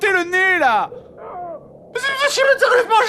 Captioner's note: Pippin cries in agony